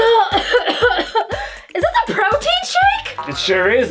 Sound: cough

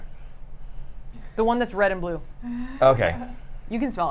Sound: chuckles

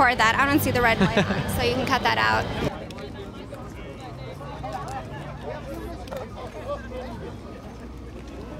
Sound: crowd noises

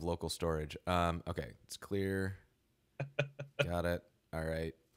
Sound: laughing

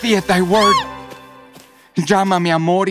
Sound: startled shriek

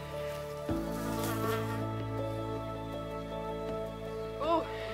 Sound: fly buzzing

